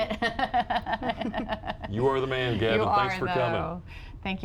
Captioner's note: laughter